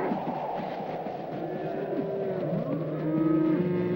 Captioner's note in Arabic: تهب الرياح